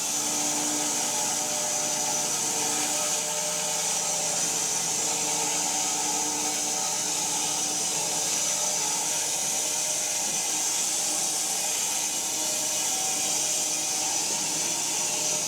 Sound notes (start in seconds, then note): 8.0 saw continues whirring